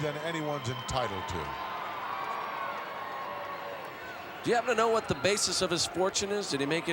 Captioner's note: applause